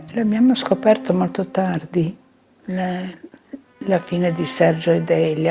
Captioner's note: speaking in foreign language